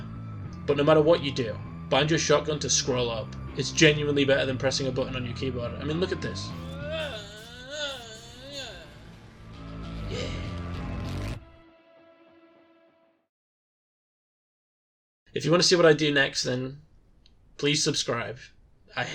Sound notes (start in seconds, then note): 6.4 groaning in time with the stabbing